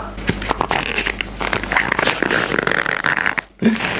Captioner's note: rustling sound